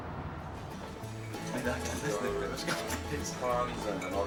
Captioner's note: light country music; people chattering